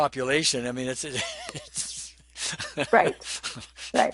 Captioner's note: laughs